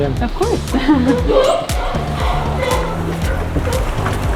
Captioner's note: sea lions barking